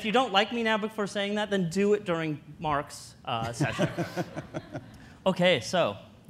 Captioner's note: audience laughter